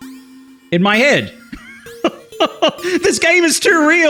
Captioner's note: laughs